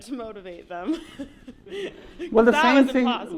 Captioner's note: laughs